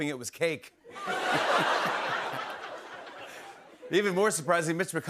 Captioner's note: laughter